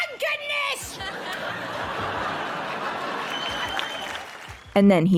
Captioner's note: audience cheers